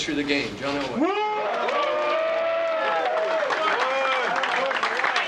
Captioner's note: cheering